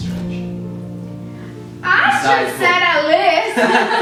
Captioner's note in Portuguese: risos